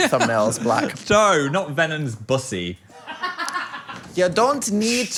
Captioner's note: producer laughs